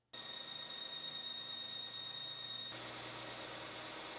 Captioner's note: machine whirring